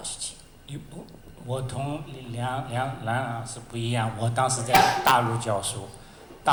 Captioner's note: Mandarin